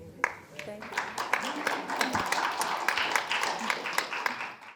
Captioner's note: audience applauding